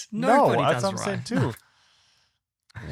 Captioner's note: laughs